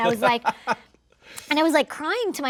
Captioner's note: laughs